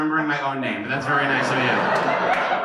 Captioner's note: laughter and applause